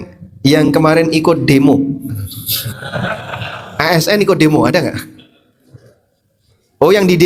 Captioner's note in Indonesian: tertawa